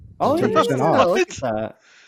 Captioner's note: laughing; laughs